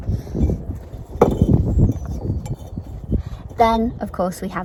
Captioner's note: bricks scraping